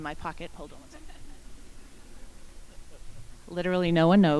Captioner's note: people giggling